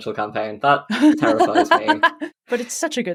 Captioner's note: laughs